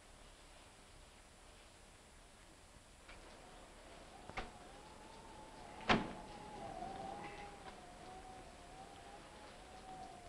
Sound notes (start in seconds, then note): 1.9 rain pattering; 3.1 wind howling